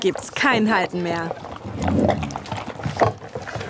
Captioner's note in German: Laute Fressgeräusche